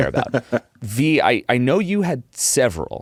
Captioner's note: laughs